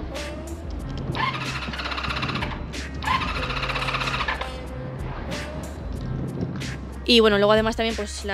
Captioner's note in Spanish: Sad engine noises